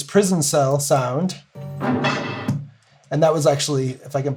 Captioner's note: metal bars clanging